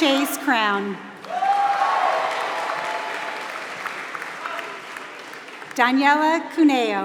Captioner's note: applause